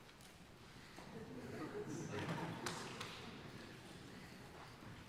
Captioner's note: audience laughing